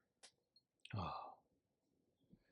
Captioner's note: sighs